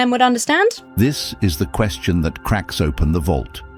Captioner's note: AI Voice